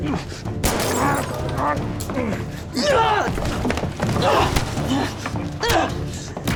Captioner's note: struggling; gun shot; struggling